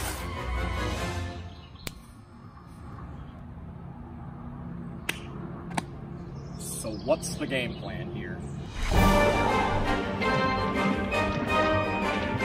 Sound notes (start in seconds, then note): 5.1 claps; 8.7 eerie music continues